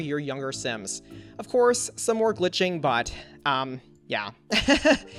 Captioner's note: laughs